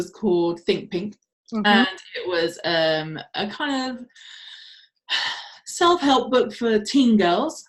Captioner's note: sighs